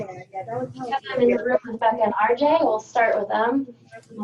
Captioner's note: background chatter